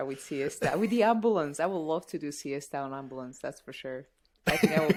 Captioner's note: laughter